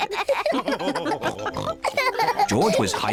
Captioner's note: all laugh